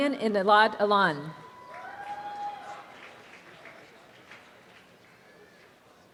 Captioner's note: students cheer and applaud